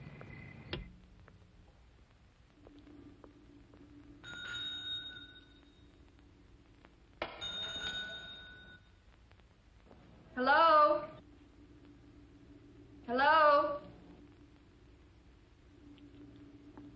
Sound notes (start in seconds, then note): 5.0 bell ring